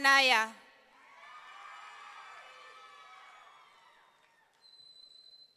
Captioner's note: audience cheering